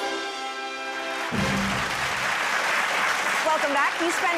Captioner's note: applause